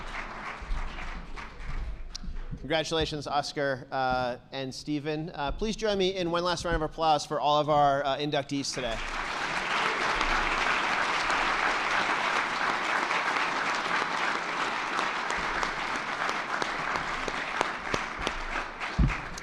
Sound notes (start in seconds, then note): 9.3 attendees clapping